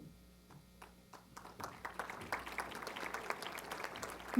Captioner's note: applause